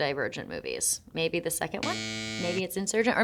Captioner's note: graphic buzzing